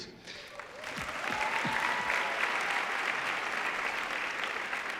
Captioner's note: audience cheering